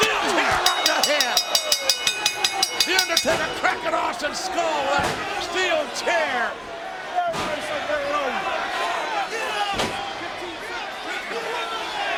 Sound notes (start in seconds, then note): 0.4 ring bell dinging; 6.6 audience yelling